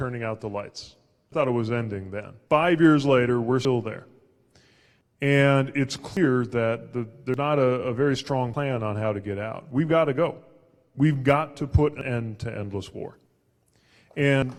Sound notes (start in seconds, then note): none